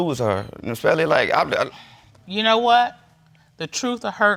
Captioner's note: stammers